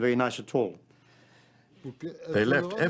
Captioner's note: non-english speech